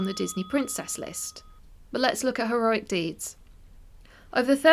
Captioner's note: sound effect: Ding, ding